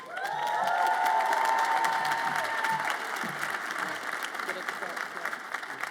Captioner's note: audience applauds and cheers